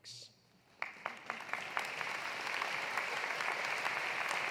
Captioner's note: audience applauding